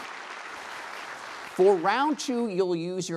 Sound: applause

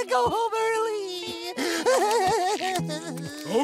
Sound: crying

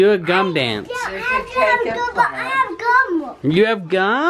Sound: toddler talking

